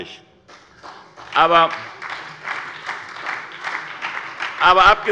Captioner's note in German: Beifall bei der SPD